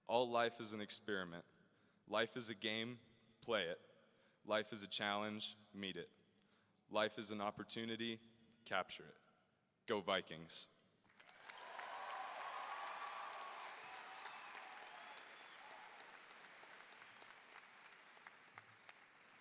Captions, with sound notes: All life is an experiment. Life is a game, play it. Life is a challenge, meet it. Life is an opportunity, capture it. Go Vikings! (audience cheering and applauding)